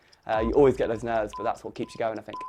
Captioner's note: none